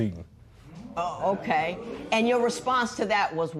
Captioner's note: spectators murmur